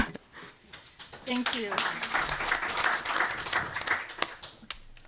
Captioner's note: audience applause